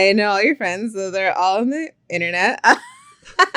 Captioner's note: laughs